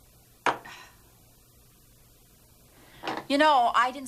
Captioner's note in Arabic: تتنهد